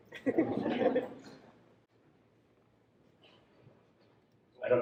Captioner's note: audience laughs